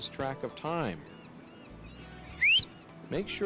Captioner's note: woman whistling